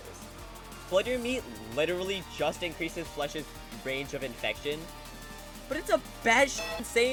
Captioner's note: bellring